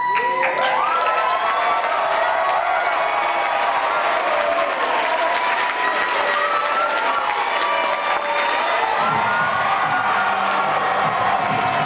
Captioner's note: applause